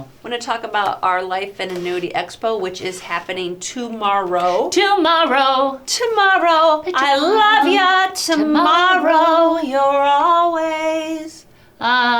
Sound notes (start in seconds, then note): 4.7 sing-song; 10.1 singing